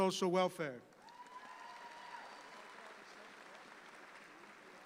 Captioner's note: audience applauds